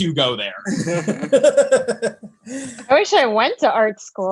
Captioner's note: laughs